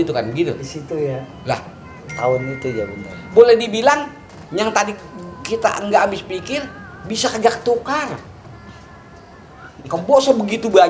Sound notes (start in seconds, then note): 4.1 laugh